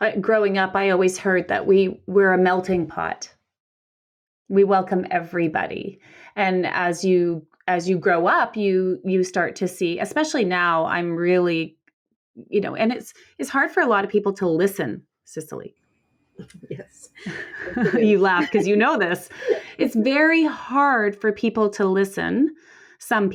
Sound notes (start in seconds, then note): 16.4 laughs